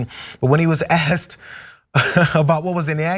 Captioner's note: laugh